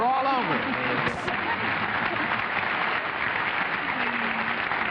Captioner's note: applause